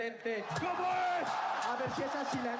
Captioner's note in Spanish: Vítores